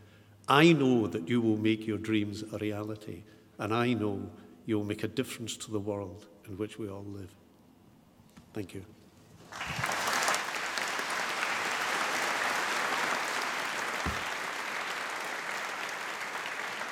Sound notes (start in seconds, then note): 9.4 applause